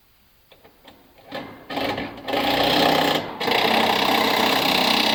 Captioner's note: metal clanking